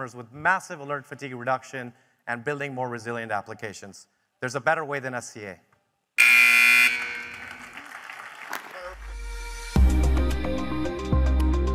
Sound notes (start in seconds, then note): 6.2 buzzer buzzing; 6.8 audience applauding; 9.7 bright music